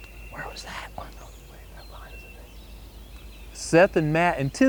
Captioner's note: whispering